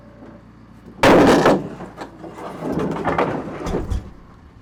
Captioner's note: wood bangs